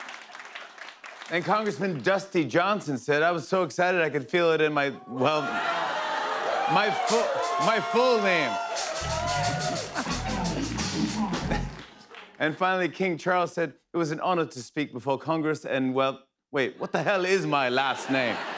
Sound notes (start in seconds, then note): 9.2 cheers and applause